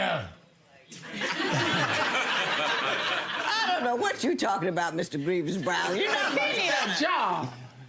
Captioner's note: audience laughing